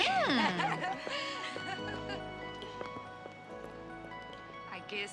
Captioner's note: ladies laughing